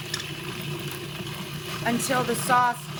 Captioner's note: mixer grinding